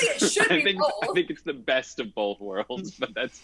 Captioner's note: laughs